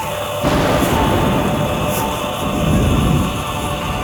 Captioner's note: thundering sound